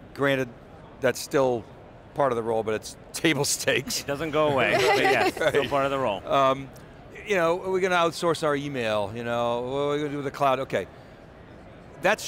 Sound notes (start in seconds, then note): 4.6 laughs